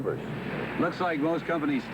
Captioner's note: tires come to halt on gravel